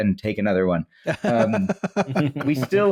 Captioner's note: laughter